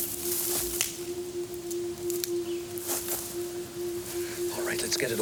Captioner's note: branch cracking